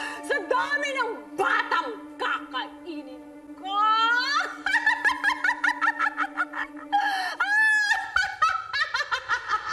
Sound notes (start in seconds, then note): 4.6 cackles